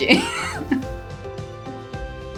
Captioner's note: laughs; upbeat music